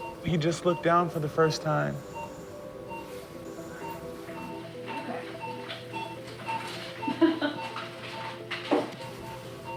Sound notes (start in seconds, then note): 4.9 machines beeping; 7.0 laughing